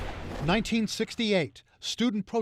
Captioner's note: voice-over